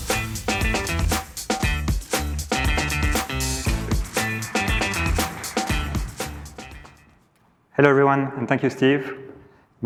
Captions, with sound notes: (low rhythmic music) (audience applauding) (low rhythmic music fading) - Hello everyone, and thank you Steve.